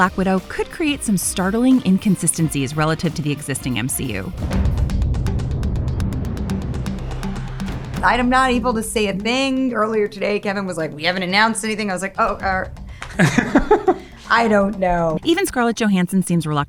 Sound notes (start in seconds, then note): 4.4 rousing music; 13.0 laughing